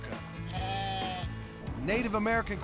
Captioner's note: sheep bleating